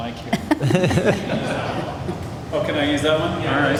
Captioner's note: laughter